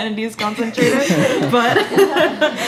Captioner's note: laughter